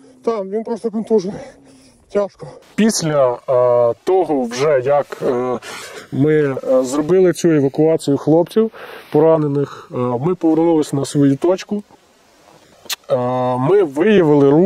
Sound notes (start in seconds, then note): 1.3 sound of heavy breathing